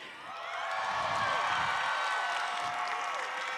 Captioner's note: cheering